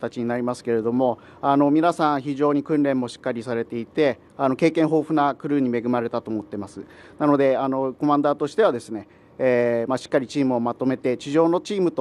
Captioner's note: speaking japanese